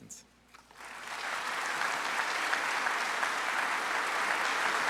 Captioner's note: audience applauds